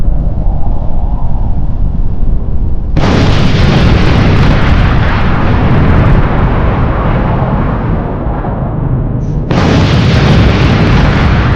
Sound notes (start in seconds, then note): 3.2 bomb banging